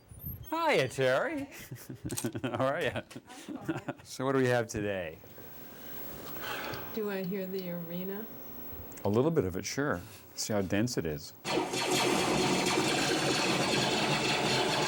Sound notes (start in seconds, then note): 1.5 chuckling; 11.4 lasers Blasting